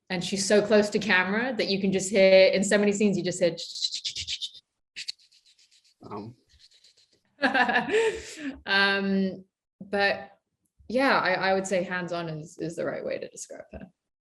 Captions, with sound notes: And she's so close to camera, that you can just hear in so many scenes you just hear (shuffling noises) (Jessica laughing) But yeah, I would say hands-on is the right way to describe her.